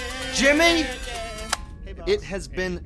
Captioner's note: boombox turns off